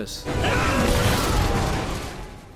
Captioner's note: crash!